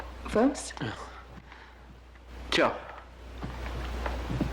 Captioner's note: laughs